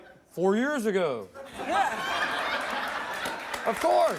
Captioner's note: audience laughs